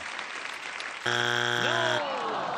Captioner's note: buzzer